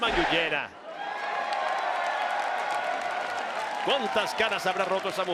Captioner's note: applause